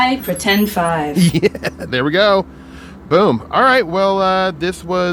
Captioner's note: laughs